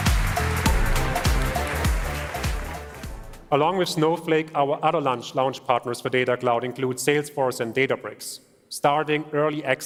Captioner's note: applause